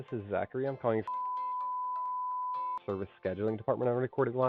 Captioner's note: beep